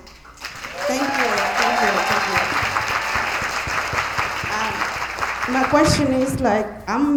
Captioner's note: attendees applauding